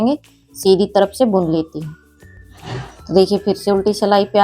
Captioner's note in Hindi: नाक से की जाने वाली आवाज़